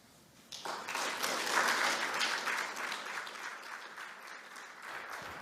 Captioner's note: applause